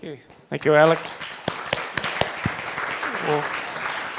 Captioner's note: applause